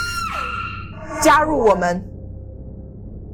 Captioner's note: Keo’s terrified scream; Mandarin language